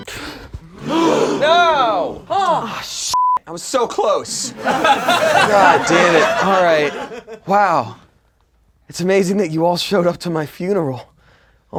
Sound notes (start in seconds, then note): 0.7 gasps; 3.8 laughing